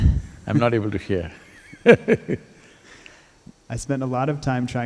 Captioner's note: laughs